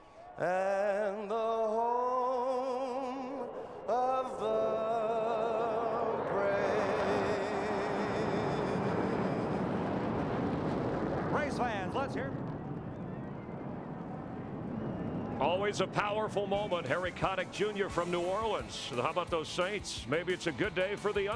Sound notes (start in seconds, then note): 7.7 cheers and applause